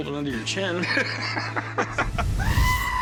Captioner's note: laughter